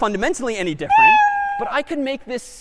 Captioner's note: meow